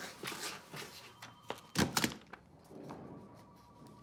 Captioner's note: footsteps; office sounds